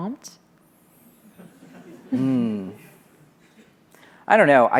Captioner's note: audience laughter